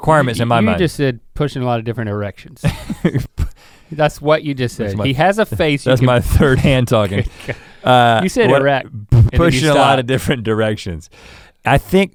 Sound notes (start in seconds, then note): 2.6 Rhett chuckles